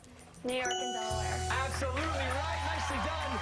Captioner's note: applause